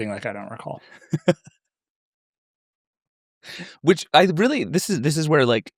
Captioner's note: laughs